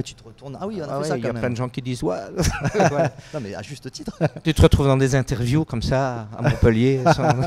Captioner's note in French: rires